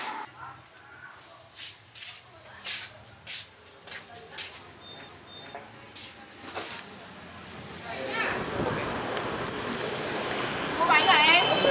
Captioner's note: lift sound; slippers sounds